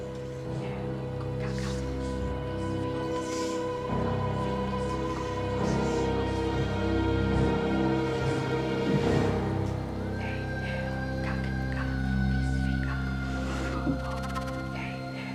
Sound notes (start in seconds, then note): 4.5 dramatic music; 10.3 whispering